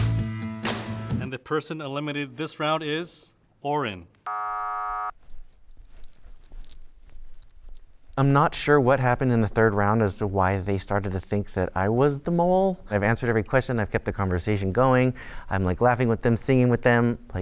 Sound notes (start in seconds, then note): 4.2 buzzer buzzing